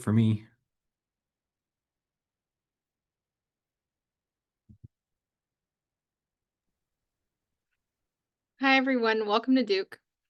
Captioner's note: silence